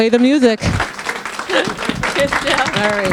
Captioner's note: audience clapping